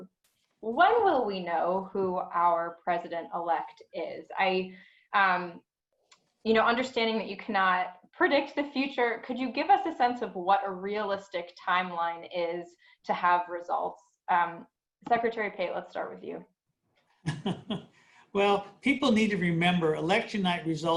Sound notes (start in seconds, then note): 17.2 laughs